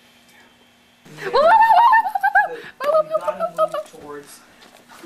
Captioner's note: woo-wooing